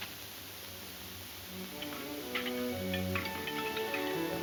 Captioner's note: metal clanking